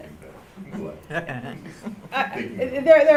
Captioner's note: laughter